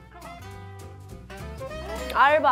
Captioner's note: clap